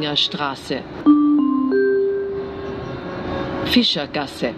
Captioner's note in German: Gong